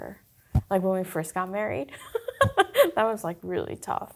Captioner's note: chuckling